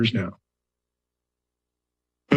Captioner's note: pause